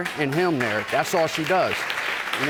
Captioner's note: audience applauds